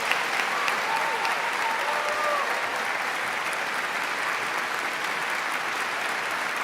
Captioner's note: audience claps